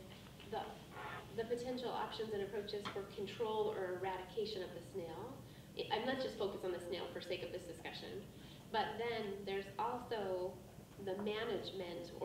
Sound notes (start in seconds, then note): none